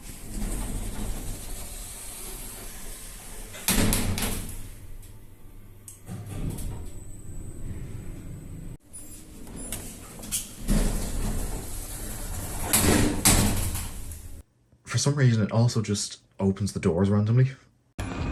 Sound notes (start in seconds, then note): 0.0 doors close; 3.8 doors slam and interlock latches; 6.5 lift begins moving down; 10.6 doors close; 12.5 doors slam twice